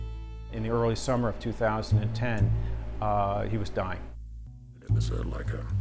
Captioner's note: voiceover